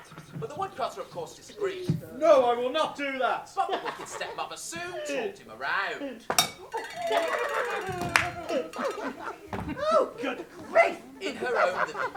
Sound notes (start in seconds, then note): 9.2 boing; 11.9 laughter